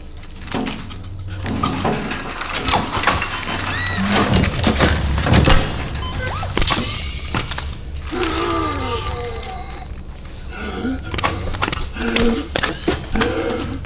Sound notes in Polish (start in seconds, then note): 8.4 ciężkie oddychanie